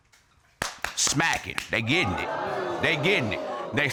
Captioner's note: audience exclaims